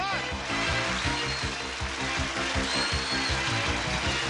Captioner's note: cheering and applause